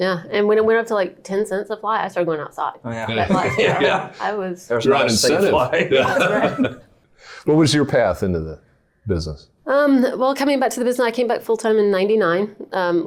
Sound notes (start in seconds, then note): 5.0 laughing over talking